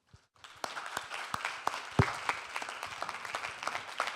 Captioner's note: audience clapping